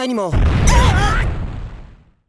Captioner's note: panicked cry